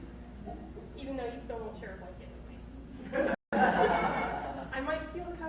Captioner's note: crowd laughs